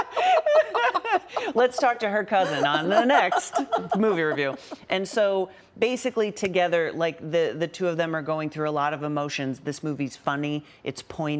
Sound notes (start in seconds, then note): 3.8 laughter